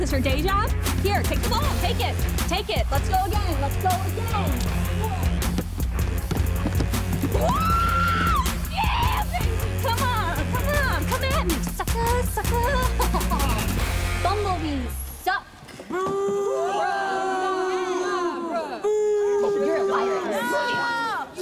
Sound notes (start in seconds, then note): 16.0 audience booing